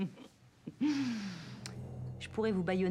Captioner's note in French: rire